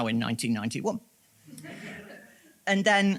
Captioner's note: audience laughs